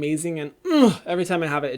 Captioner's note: grunts